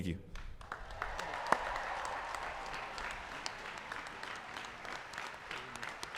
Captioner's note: applause